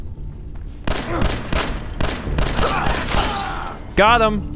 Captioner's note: blam! blam! blam! blam! blam! blam! blam! blam!